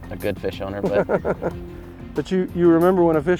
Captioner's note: laughing